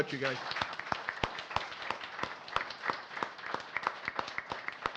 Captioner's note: audience applauding